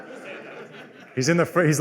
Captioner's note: laughter